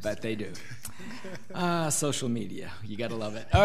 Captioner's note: laughing